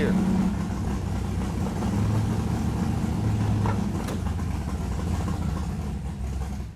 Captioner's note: engine rumbling